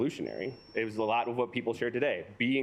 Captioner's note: alarm beeping